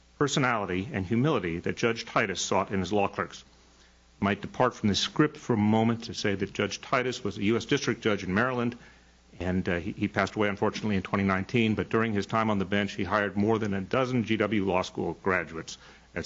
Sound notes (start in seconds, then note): none